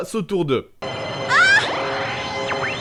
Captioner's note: shoutings